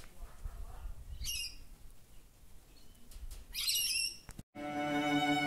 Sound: bird Noises

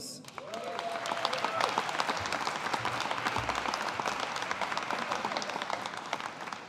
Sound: audience applauding

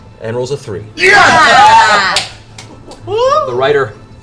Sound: cheering

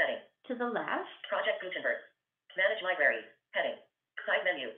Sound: VoiceOver voice

